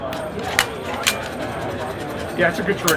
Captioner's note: gun clicks